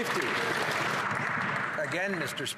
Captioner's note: some Applause